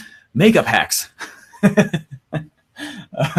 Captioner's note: laughs